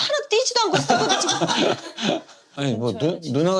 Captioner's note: laughing